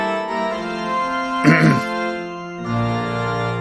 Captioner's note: coughs